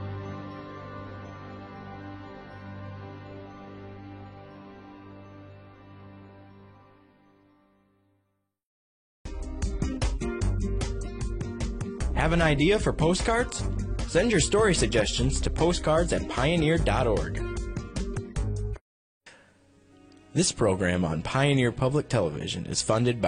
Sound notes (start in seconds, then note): 0.0 soothing music; 4.9 upbeat music; 10.0 voiceover